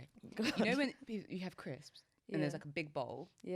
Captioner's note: chuckles